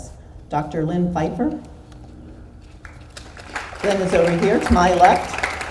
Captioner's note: audience applauds